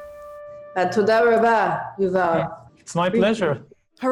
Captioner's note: Speaking Hebrew